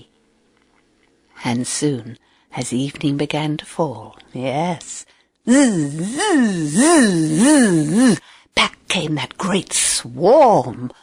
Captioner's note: bees buzzing